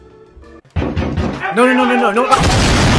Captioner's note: pounding on door